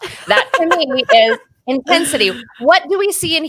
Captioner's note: laughing